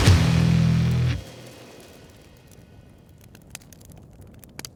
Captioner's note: fire crackling